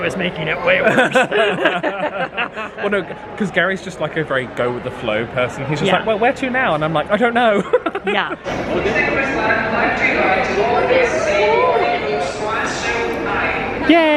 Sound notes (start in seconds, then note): 0.8 both laughing; 7.5 laughing